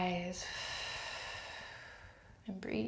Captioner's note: exhales